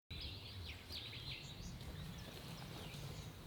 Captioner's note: birds chirping